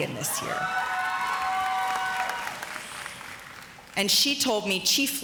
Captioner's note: audience cheers